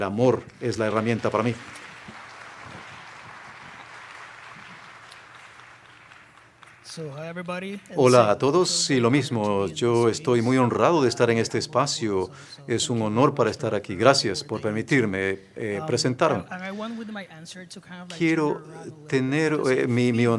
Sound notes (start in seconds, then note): 7.6 applause